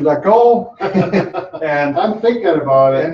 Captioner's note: laughs